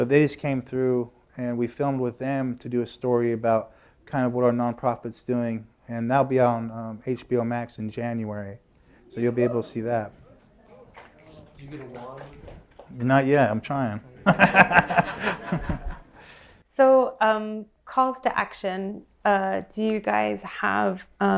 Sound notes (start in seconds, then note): 10.6 applause; 14.2 laughter